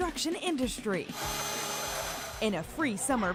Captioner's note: whirring